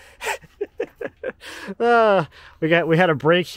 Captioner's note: laughing